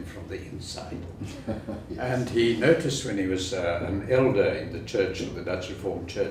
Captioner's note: laugh